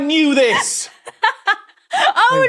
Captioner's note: laughs heartily